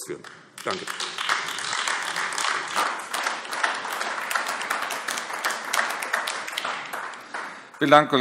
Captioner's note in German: Beifall AfD